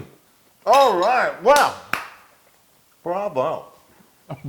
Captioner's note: laugh